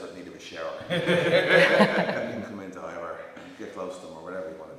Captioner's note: laugh